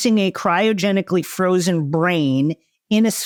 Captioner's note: none